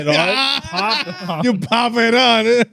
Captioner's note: laughing